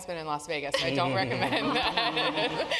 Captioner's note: laugh